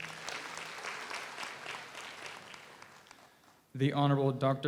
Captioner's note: audience applauds